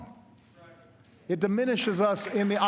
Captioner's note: applause